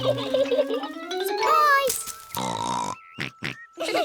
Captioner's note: both laugh; oinks; all laugh